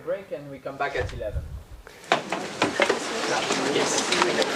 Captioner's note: indistinct conversation